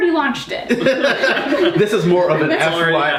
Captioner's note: all laughing